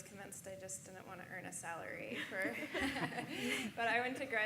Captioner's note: laughing